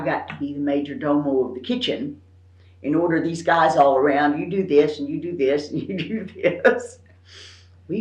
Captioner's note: laughs